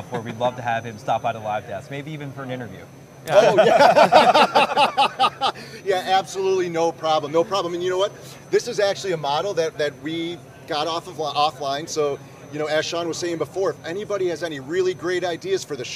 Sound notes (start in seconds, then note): 3.3 laughs